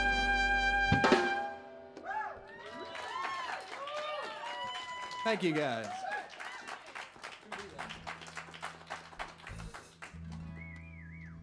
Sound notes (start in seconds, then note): 2.8 aplausos; 2.8 applause; 4.8 hablando en Inglés